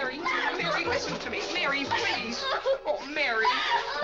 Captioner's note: Mary cries